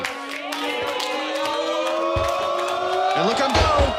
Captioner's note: audience oohing